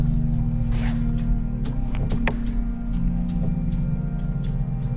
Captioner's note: rope whizzing